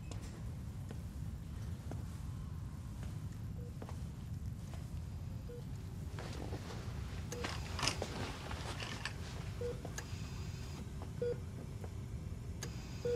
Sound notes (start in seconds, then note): 5.2 monitor beeping steadily